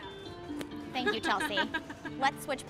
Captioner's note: laughing